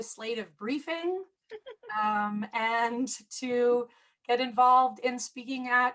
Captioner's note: laughter